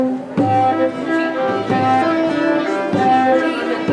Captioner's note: precieuses whispering